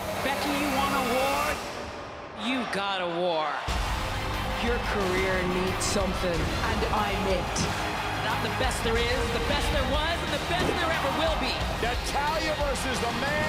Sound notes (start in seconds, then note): 4.7 crowd cheering